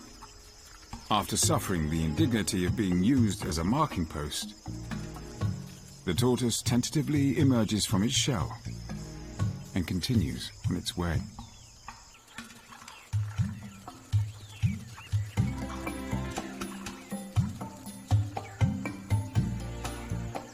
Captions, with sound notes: the tortoise tentatively emerges from its shell and continues on its way. (dramatic music) (birds chirping) The band comes across a small herd of grazing impala.